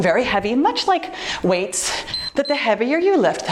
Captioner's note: timer beeps